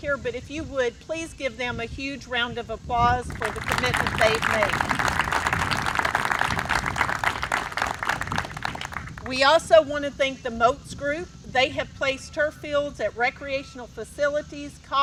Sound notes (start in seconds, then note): 3.3 audience applauds